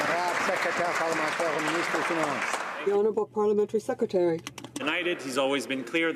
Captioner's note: some Applause